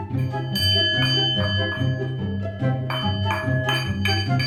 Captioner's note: singing bowl rings